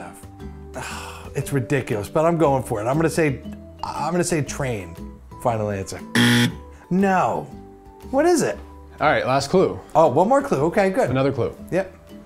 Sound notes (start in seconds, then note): 0.7 sigh; 6.1 buzzer